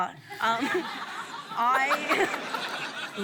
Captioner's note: laughs